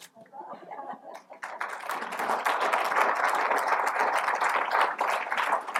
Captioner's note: chuckles; applause